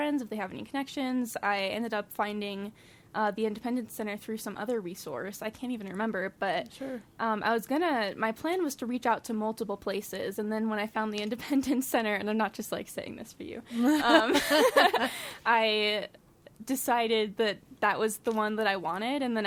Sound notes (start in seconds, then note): 13.8 laughing